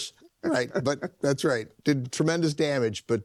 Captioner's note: laughs